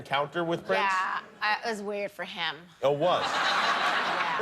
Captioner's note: laughter